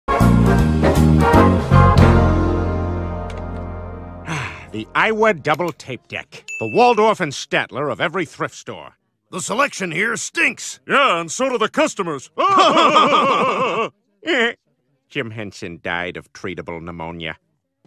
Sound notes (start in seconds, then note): 8.9 imitating waldorf; 10.6 imitating statler; 12.3 laughing like waldorf and statler; 14.9 giggles